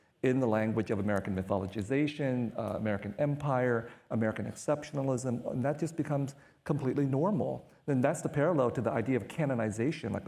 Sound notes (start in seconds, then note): none